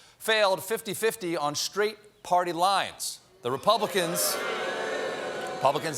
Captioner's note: booing